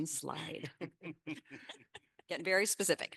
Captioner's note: panelists laughing